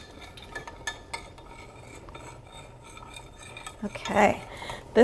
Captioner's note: stirring mixture